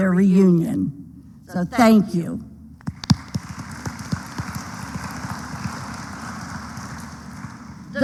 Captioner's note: applause